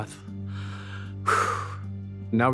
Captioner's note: inhales and exhales